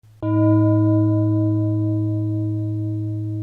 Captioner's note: gong